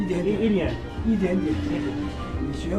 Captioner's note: mandarin